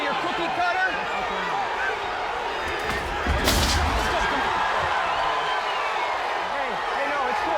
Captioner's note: table top thudding